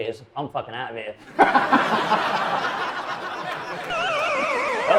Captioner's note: audience laughing; video games beeping